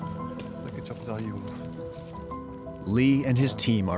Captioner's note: speaking Turkish